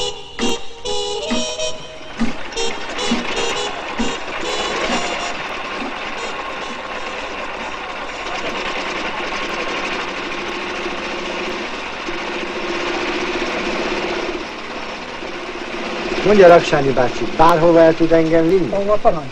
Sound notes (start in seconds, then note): 2.3 engine starts revving; 8.2 engine revs loudly